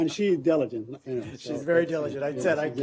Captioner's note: laughter